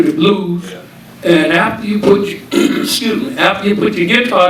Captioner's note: coughs